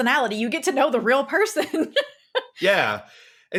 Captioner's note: laughs